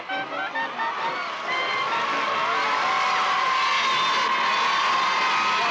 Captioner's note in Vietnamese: Tiếng vỗ tay cổ vũ